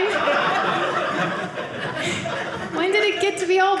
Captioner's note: audience laughing